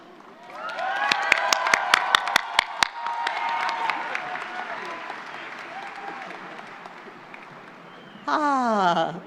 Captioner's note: applause